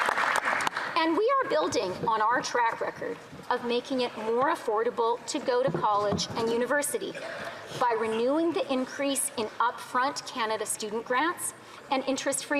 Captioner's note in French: applaudissements